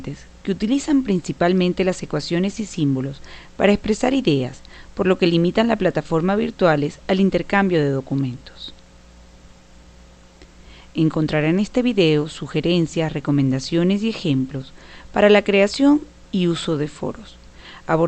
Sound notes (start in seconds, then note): 9.0 no audio